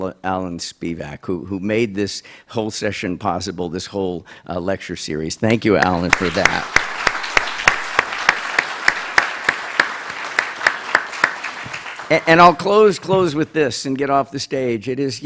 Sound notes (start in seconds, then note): 9.4 applause